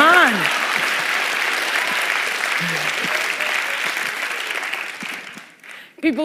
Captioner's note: applause